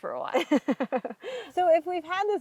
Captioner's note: laughs